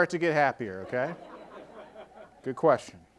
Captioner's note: audience laughing